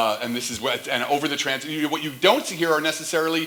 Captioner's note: none